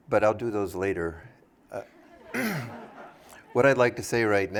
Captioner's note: laughter